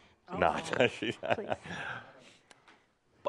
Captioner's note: Adamus chuckles